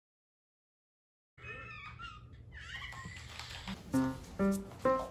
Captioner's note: sound of crying